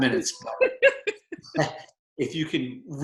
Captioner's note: laughter